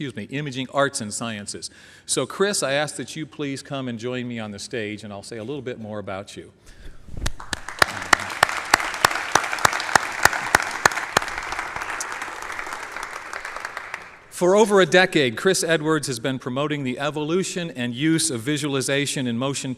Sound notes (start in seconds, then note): 7.2 applause